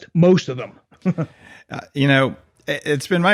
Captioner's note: laughs